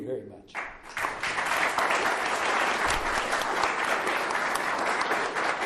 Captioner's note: applause